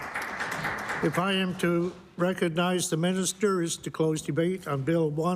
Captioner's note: some Applause